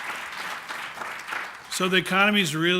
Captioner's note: applause